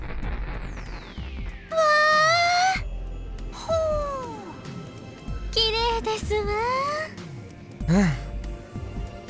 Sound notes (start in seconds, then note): 4.0 impressed hum